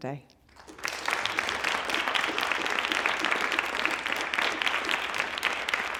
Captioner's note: applause